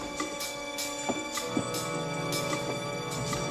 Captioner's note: footsteps